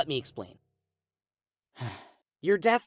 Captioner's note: sigh